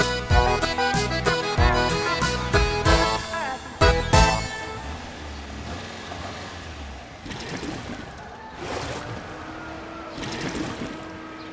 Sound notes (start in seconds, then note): 5.1 car approaching